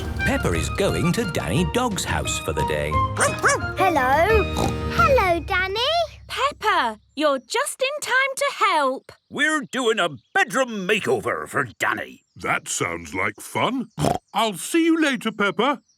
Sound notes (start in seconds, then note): 3.2 barking; 4.1 snorting; 13.9 snorting